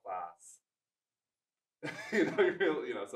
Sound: laughs

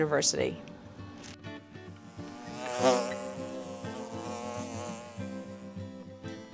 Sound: bees buzzing

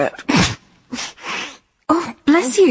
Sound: she sneezes

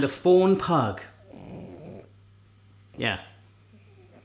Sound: grunting

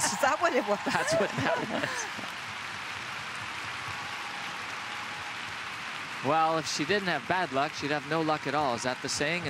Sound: cheers and applause

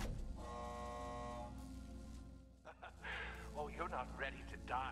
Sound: beeping

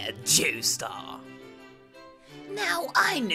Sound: awkward silence

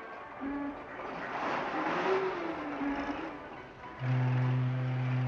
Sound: city street sounds; fog horn in distance

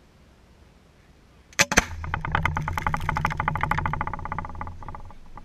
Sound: small pop followed by small boom then a rattling noise

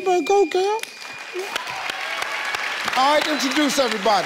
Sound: claps

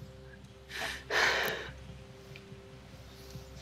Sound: sighs

